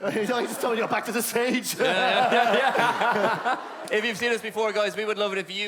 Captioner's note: laughin; laughter from everyon